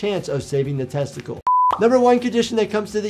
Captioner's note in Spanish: pantalla pitando